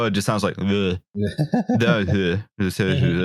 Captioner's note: laughs